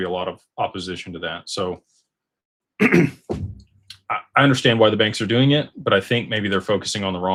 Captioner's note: clears throat